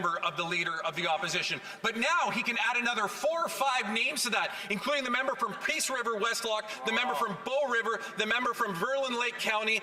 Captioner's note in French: voix de l'interprète